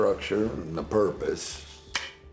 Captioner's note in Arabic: تنقر البندقية فارغة